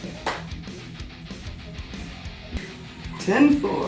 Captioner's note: claps